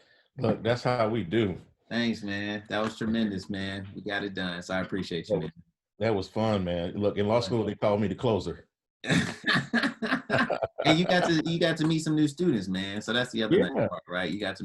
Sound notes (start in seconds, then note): 9.1 laughs